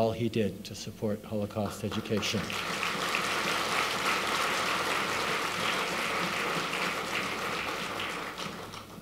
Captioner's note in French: Applaudissements